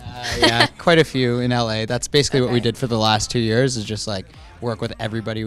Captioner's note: laughter